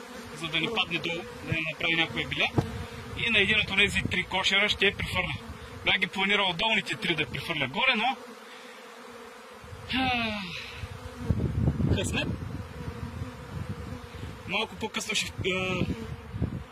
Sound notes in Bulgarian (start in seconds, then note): 10.0 Въздишка